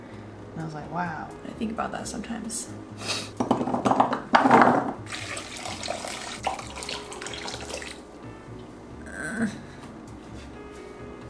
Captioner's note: sniffs